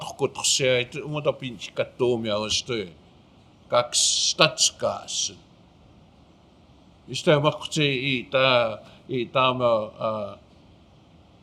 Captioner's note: speaking Blackfoot